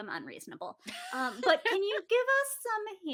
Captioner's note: laughs